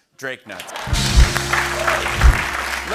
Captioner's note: cheers and applause